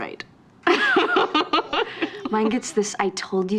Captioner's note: laughing